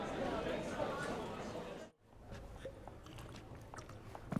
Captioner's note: conversation dies down